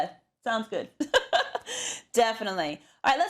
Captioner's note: laugh